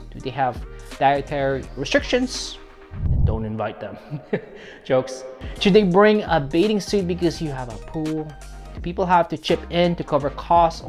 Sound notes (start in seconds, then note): 3.3 voice booming; 4.0 laughs